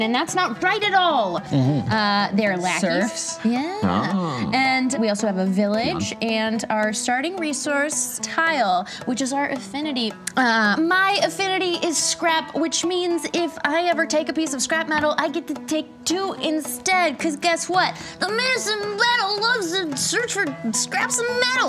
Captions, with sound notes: and that's not right at all! They're lackeys. Surfs. Yeah. And we also have a village and our starting resource tile which is our affinity. My affinity is scrap. Which means if I ever take a piece of scrap metal, I get to take two instead. 'Cause guess what? (imitates child's voice) The Menace in Metal loves to search for scraps of metal!